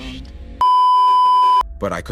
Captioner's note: beeeeeep